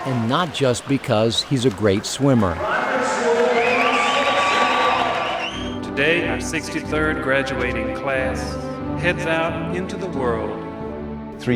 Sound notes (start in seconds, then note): 4.7 crowd cheering